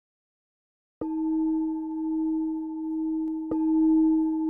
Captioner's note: bell rings softly